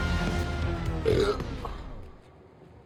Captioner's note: burping